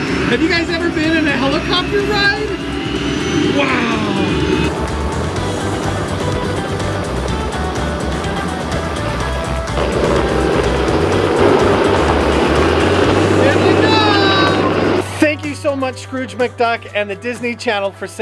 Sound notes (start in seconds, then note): 4.7 helicopter sounds; 7.3 upbeat music